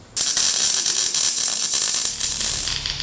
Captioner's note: welding sounds